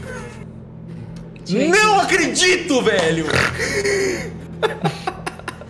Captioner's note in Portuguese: voz de indignação/maligna